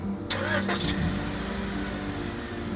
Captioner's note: car revs